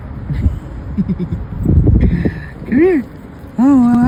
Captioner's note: giggles